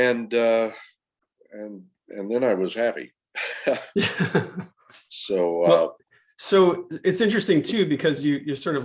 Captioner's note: laughter